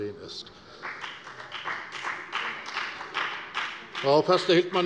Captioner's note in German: Beifall bei der FDP